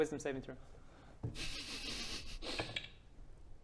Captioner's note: suppressed glee